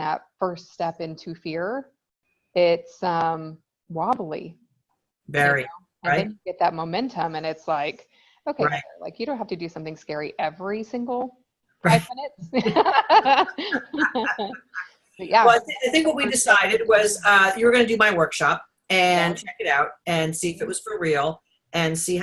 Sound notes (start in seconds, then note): 12.6 everyone laughs